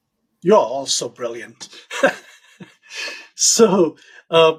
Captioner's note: chuckles